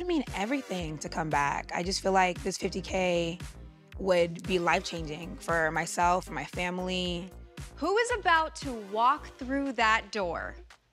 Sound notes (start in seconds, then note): none